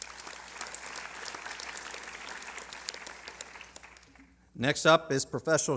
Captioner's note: applause